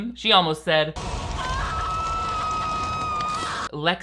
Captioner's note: person screaming